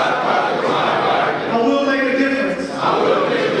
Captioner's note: audience speaking